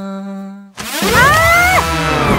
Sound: screams

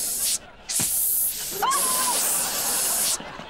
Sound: hissing

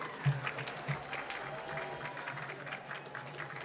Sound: applause

